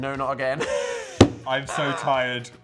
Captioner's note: Dan laughs